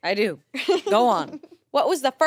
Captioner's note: laughs